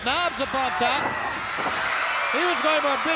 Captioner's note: crowd cheers